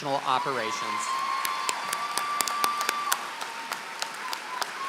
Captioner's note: applause